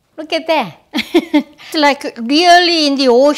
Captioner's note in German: Lacht